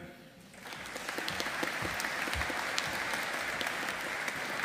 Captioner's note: audience applauding